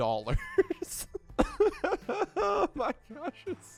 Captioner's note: laughing